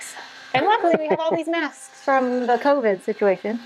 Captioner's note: laughs